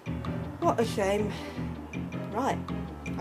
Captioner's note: sighs